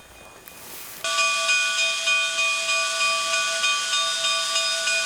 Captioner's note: bell ringing